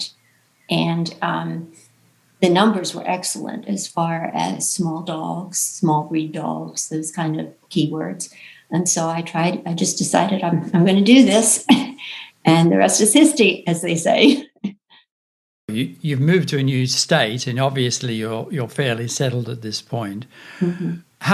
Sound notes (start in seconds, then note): 10.4 chuckles; 15.1 chuckles